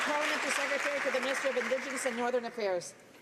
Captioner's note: some Applause